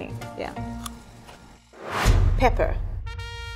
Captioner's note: crunchy chewing